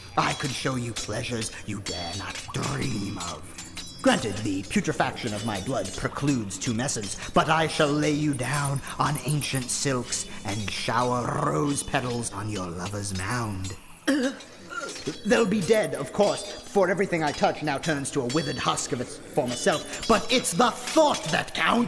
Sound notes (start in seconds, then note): 13.8 half-gags, half shudders